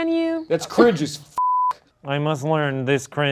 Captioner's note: beep